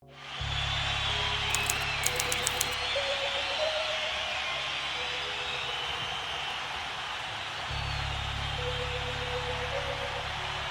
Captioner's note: applause